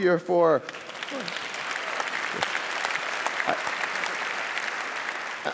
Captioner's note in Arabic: ضحك